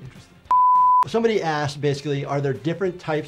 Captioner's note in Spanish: pitidos de transmisión